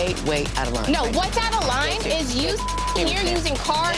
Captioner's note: beep